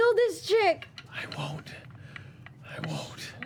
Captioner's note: whispering